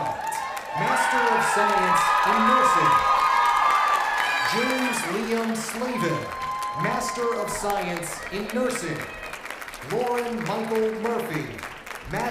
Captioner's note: cheers and applause